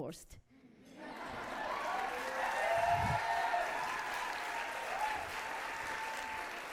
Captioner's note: audience applauding